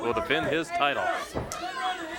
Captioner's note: hands thudding